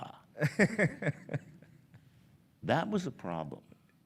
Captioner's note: laughs